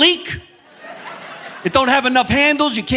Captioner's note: audience laughing